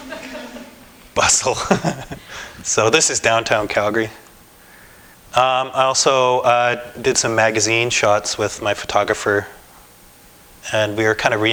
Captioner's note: laughter